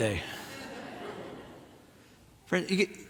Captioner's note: audience laughing